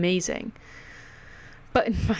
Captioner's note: breathe into mic again